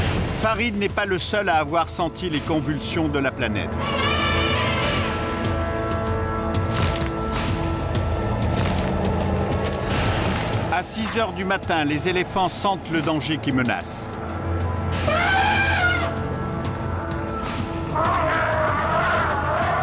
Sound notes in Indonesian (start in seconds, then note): 3.8 suara teriakan gajah; 14.9 suara teriakan gajah